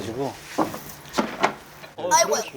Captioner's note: plunk, thump